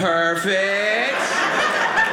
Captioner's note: audience laughing